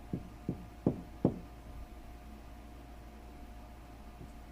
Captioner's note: knocking on door